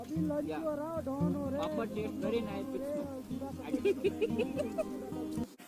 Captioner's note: laugh